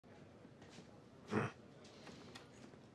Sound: Roy grunts

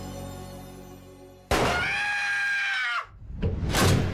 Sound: shot firing; screaming

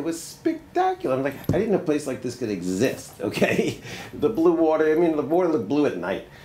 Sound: laughs

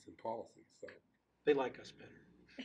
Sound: laughing

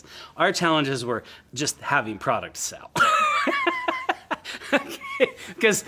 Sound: laughs

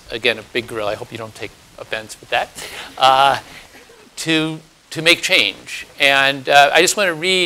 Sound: laugh

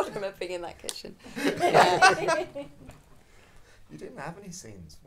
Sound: audience laughing

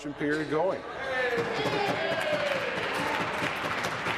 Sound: conversation din

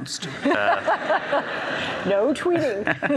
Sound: audience laughs

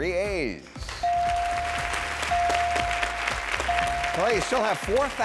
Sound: clapping

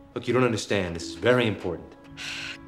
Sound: sigh

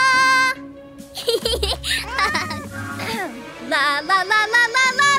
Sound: Neon QT giggles

